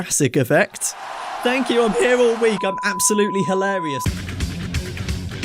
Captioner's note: applause